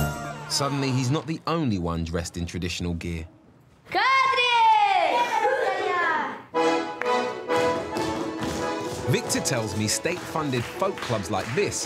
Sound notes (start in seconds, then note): 3.6 speaking in foreign language; 6.5 upbeat traditional music